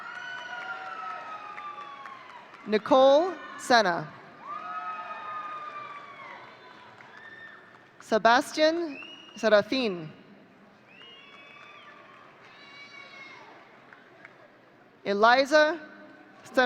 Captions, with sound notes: (audience cheering) Nicole Sena. (audience cheering) Sebastian Sarotine. (audience cheering) Eliza Therna.